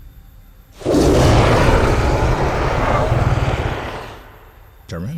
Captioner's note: roaring